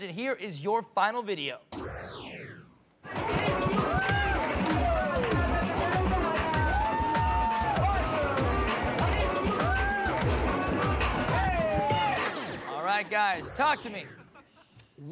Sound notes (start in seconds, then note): 4.2 people cheering